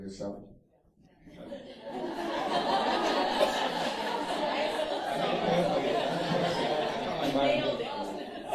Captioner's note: laughter